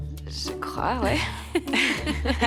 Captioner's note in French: rires